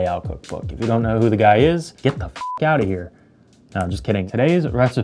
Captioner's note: beep